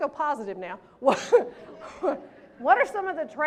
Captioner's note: laughs